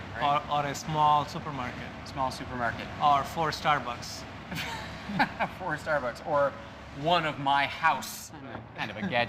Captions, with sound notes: Or a small supermarket. Small supermarket. Or four Starbucks. (laughing) Four Starbucks or one of my house. I'm kind of a gadget freak.